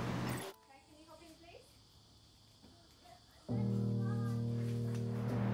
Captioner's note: indistinct children's chatter